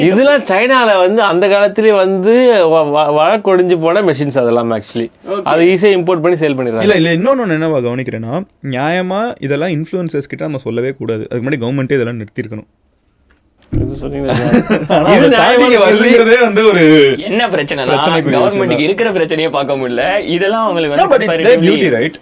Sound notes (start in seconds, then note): 14.2 laughs